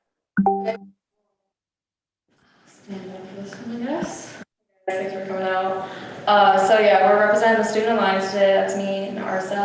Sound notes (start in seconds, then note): 0.4 computer dings